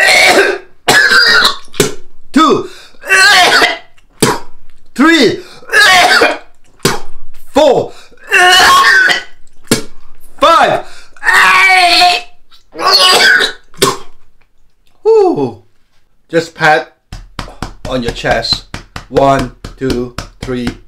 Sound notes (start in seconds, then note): 0.8 wet coughing; 1.8 spitting; 3.2 wet coughing; 3.3 spitting; 5.7 wet coughing; 6.7 spitting; 8.5 wet coughing; 9.7 spitting; 12.5 spitting; 12.9 wet coughing